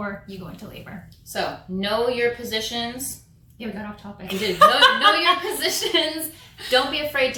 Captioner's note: laughter